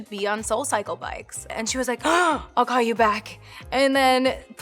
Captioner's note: gasps